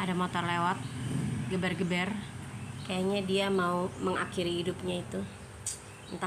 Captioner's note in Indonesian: membuat suara di motornya berisik